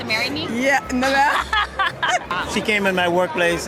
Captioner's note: laughs